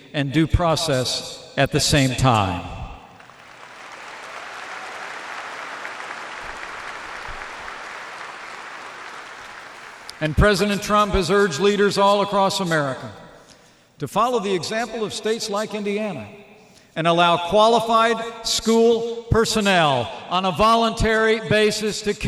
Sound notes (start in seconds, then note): 3.1 applause